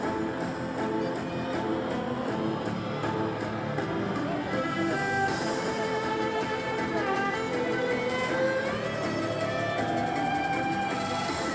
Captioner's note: crowd cheering